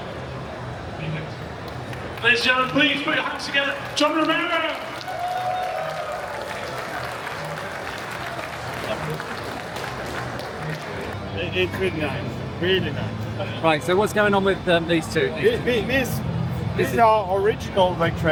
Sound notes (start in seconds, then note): 4.0 crowd Cheering